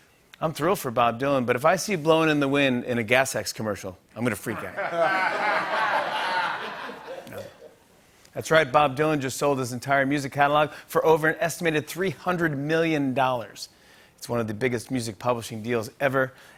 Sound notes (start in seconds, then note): 4.5 laughter